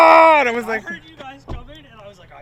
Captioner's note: door thudding